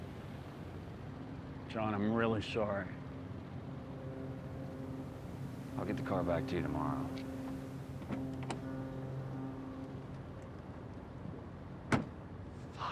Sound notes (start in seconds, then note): 8.3 boat horn blaring